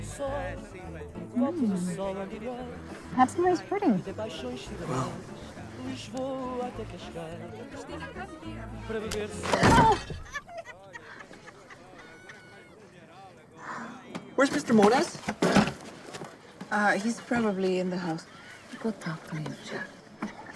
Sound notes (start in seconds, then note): 9.4 bang